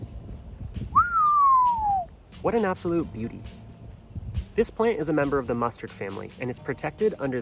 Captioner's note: whistles